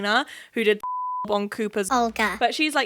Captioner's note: beep